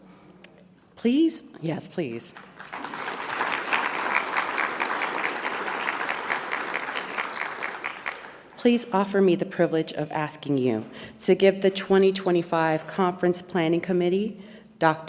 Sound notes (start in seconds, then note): 2.3 audience applauding